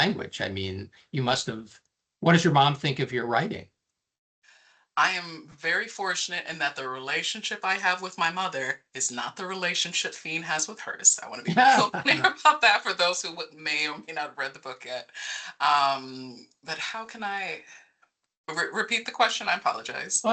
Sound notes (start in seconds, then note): 11.4 laughing